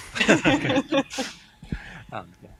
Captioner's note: laughter